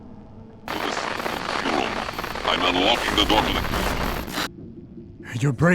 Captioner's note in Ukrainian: незрозумілі спотворення статики